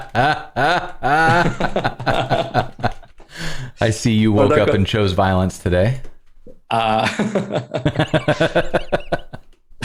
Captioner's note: laughter